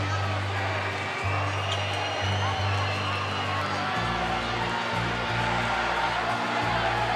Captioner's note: crowd cheering